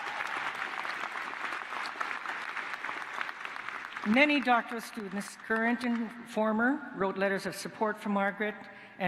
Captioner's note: applause